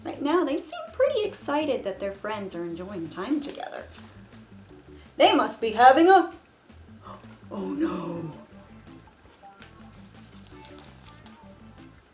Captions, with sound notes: Right now they seem pretty excited that their friends are enjoying time together. "They must be having a." [gasps] Oh no.